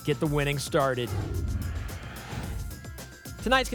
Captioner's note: whoosh